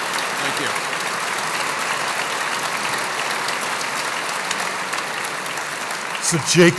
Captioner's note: applause